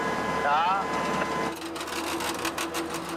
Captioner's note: creaking